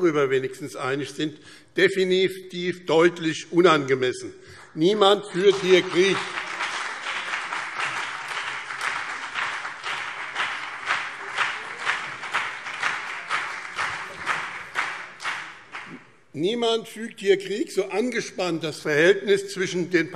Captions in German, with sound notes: hierüber einig sind - definitiv deutlich unangemessen. Niemand führt hier Krieg. [Beifall BÜNDNIS 90/DIE GRÜNEN und vereinzelt CDU - Zurufe SPD] Niemand führt hier Krieg, so angespannt das Verhältnis zwischen